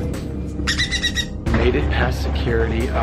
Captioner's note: Maverick squawks